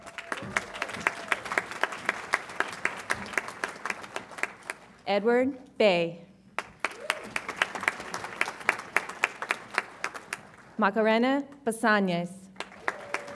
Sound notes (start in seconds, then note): 0.0 audience applauds and cheers; 6.6 audience applauds; 12.5 audience applauds